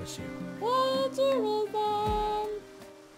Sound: child's voice

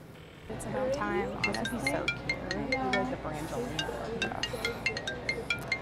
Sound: cell phone rings

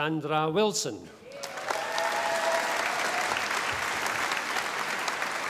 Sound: audience applauding

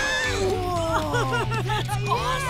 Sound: laughing

